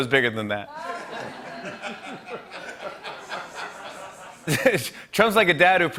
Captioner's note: laughter